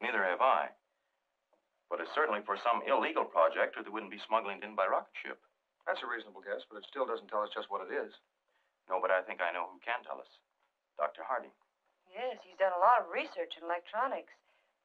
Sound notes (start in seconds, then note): none